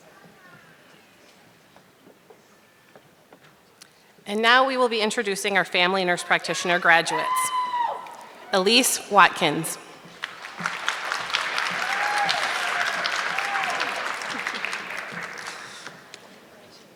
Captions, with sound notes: And now, we will be introducing our family nurse practitioner graduates. Elise Watkins. (audience clapping)